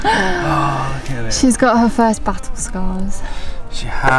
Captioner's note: laughing